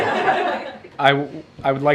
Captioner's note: laughter